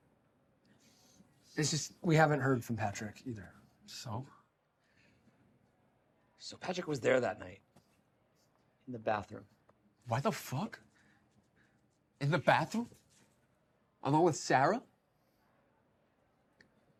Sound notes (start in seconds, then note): none